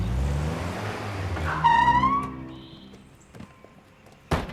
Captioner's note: tires squeal